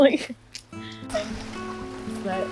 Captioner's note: guitar music continues; both chuckle